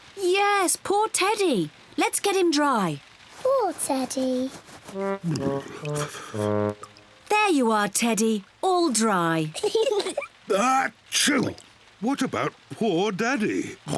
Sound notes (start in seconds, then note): 5.0 shivering; 9.5 kids giggle; 9.6 sneezes